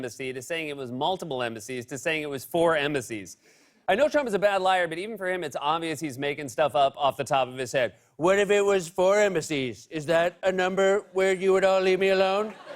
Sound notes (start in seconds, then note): 8.2 As Trump; 12.2 laughter